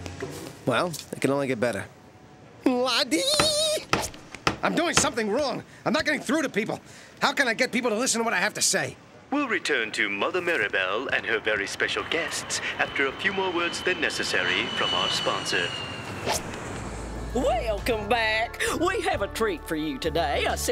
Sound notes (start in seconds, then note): 3.2 screams; 8.9 on TV